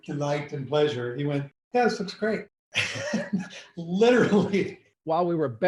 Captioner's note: laughs